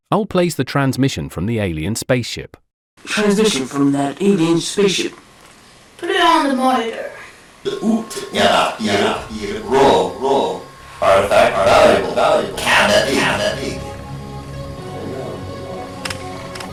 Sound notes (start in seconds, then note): 5.2 alien Voice